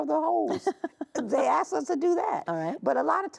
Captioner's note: chuckling